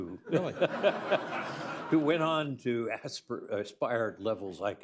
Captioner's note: laughter